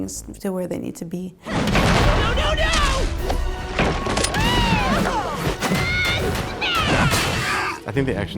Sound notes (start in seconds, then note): 2.1 grunt; 5.9 various battle noises